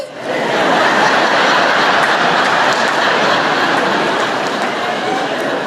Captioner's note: laughter